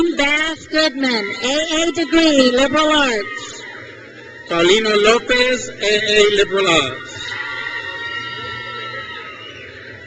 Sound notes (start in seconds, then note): 3.4 crowd cheers; 7.3 crowd cheers